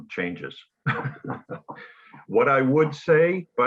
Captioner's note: chuckles